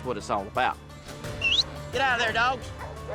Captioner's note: whistles